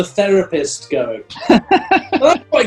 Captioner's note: laughing